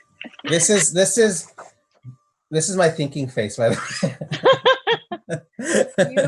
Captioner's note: laugh